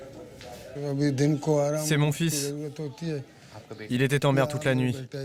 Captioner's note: Ghani speaking foreign language